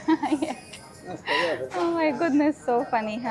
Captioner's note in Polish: śmiech